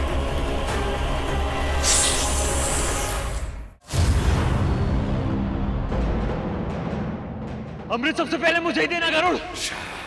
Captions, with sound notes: [hissing] [explosion] Give me the elixir first, Garud.